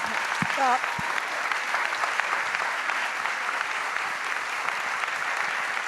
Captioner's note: applause